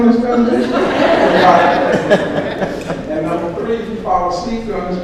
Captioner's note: audience laughs